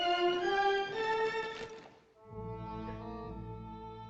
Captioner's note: weeping